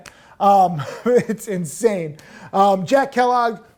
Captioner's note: laughing